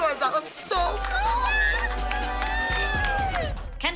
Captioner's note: cheering